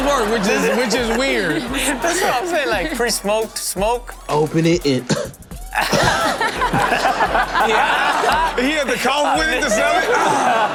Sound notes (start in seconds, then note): 5.0 cough; 5.5 co-hosts laughing